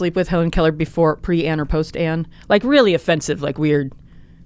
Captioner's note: none